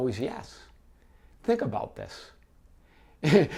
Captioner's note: laughs